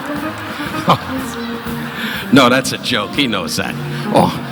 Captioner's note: audience laughing